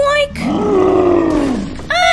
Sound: roar!

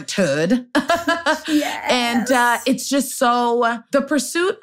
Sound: laughs

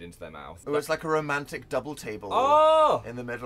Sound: enthusiastically shouts

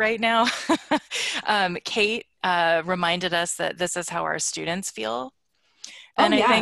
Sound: laughs

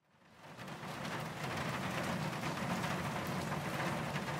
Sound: sound of rain

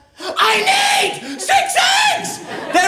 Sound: screeching

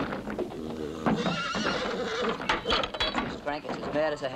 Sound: angry whickering

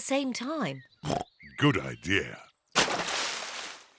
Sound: oinks

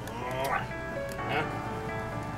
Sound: lips smooching; light music

